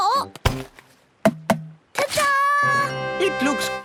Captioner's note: tapping